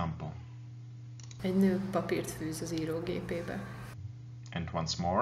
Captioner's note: speaking in Hungarian